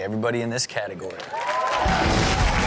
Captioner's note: audience cheers; hard rock music